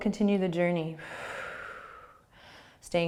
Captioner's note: exhaling